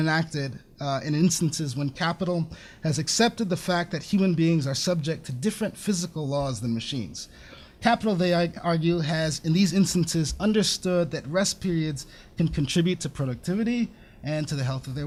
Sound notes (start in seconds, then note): none